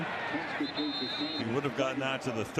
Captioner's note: pa announcement